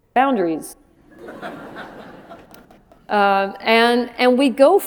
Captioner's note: laughter